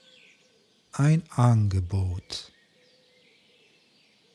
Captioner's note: german